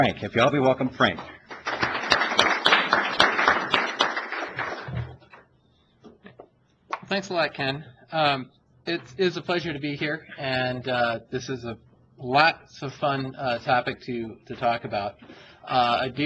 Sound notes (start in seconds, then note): 1.4 applause